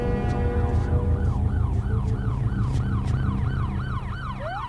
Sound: sirens wailing

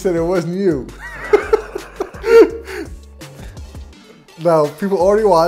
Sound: both laughing

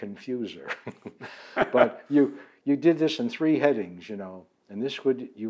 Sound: laughs

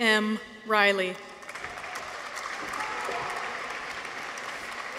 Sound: audience applauds

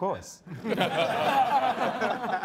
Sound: all laughing

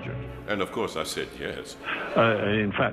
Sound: audience laughs

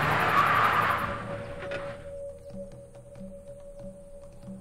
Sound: car engine runs; tires screech; uneasy music

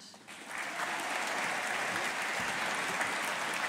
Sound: audience applauding

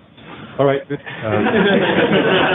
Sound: laughter

